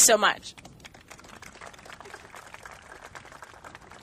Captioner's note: applauding